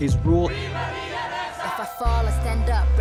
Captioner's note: crowd chanting